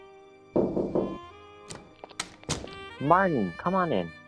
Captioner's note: door rattles; knocks on door